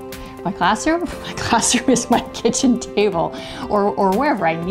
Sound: laughing

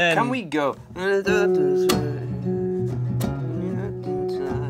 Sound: hums melody

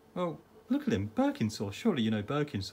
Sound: none

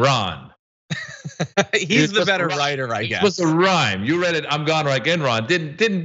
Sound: laugh

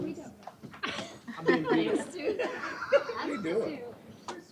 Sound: laughter

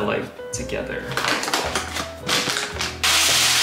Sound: bag rustles; rice pouring

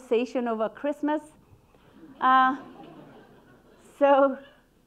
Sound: audience laughing

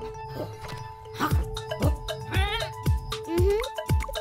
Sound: excited bleating

